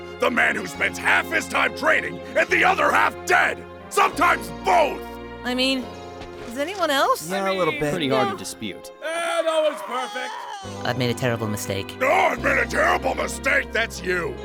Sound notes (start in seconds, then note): 12.5 mockingly